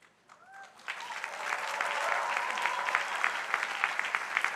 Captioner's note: crowd applauding